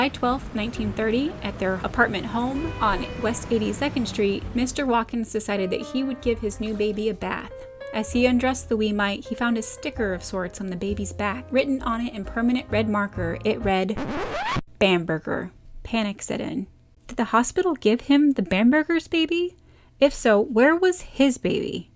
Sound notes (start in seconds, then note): 13.8 record scratch